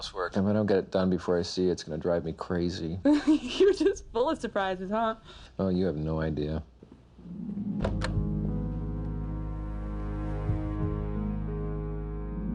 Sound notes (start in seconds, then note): 3.3 laughing; 7.8 phone clicks